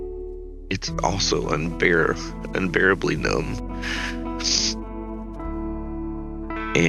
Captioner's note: sniffles